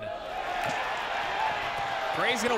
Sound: crowds cheers

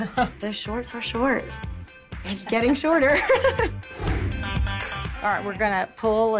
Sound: laughter; laughter

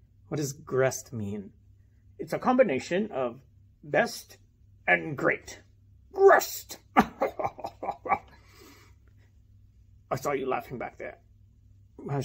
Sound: laughs

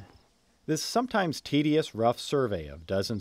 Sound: voiceover

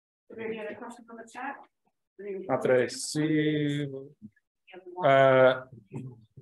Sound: chatter and awaiting more questions

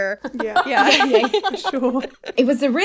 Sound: laughing

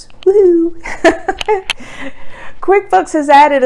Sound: laughs

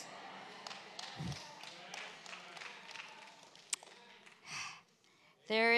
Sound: congregation cheers

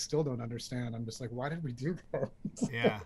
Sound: laughter

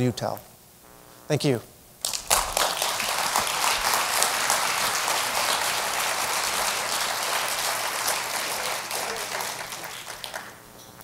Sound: applause

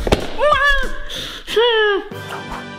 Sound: exclaims; upbeat music

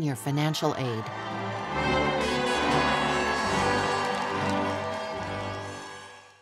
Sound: SFX: cheering

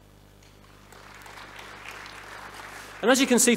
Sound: audience applauding

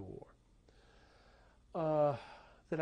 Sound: sighs

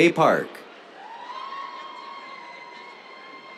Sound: cheers

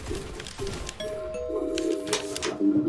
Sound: door bell

